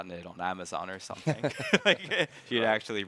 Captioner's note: all chuckling